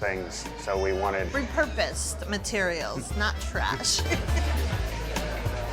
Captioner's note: laughs